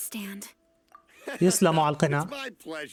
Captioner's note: laughs